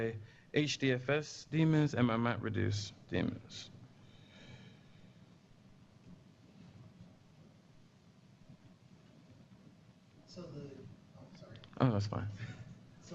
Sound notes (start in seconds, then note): 4.0 pause